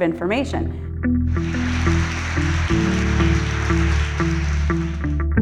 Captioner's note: inspirational music; applause